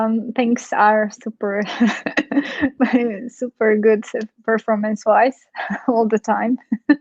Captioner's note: chuckles